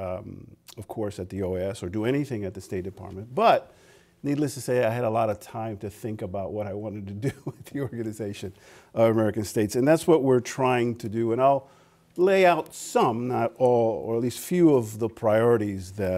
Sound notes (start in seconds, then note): 7.2 laughter